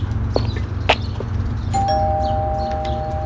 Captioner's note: doorbell rings